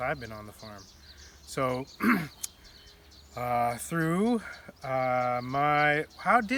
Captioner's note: clears throat